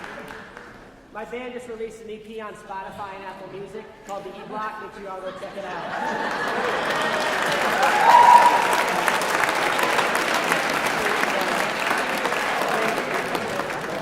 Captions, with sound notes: >> My band has release an EP on Spotify and Apple music called the Eblock which you all go check it out. [ Applause ]